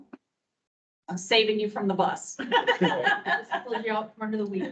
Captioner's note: members laughing